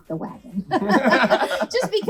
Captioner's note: laughs